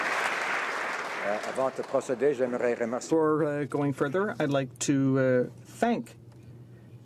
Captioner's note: some Applause